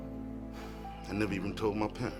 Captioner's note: sighs